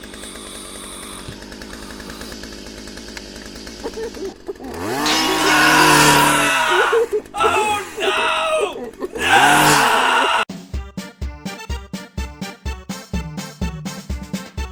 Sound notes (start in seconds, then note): 5.0 screams; 5.2 muffled crying; 5.7 chainsaw